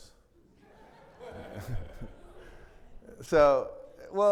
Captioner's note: everybody laughing